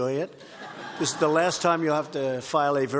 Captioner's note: laughter